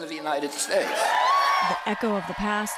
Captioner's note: cheering and applause